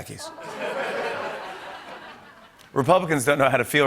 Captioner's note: laughter